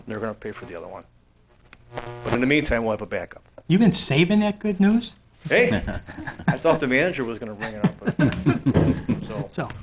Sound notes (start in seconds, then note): 5.6 laughs; 7.5 laughing